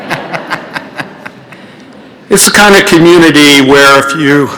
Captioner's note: laughter